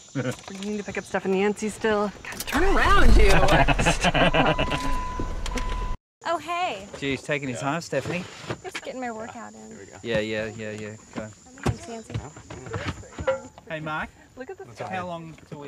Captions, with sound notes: We need to pick up Steph and yancy still... God! Turn around you! [Laughter] - Stop it oh, hey! Jeez, taking your time Stephanie. Just getting my workout in. Yeah, yeah. Yeah, yeah. Hey, Mark? How long until we leave?